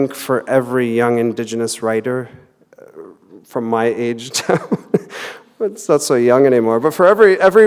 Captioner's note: laughter